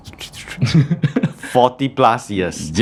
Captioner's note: laughing stammers